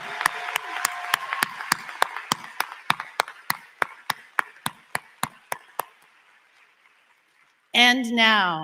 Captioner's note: applause